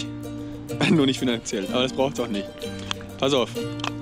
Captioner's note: laughs